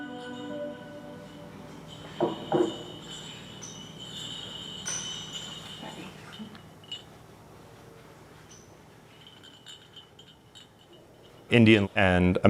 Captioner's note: bells jingling